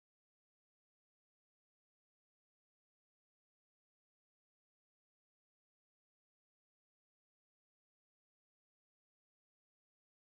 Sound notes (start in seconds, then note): none